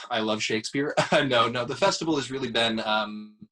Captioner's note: laughs